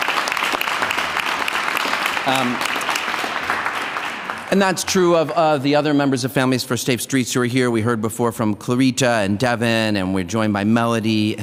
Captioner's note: applause